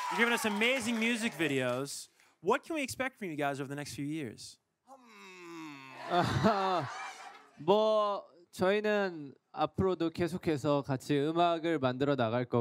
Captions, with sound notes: You've given us amazing music videos. What can we expect from you guys over the next few years? (speaking in foreign language)